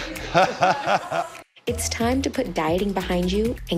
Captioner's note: laughing